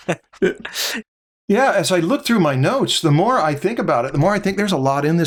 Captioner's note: laughter